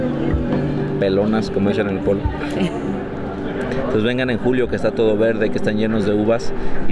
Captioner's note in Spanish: risas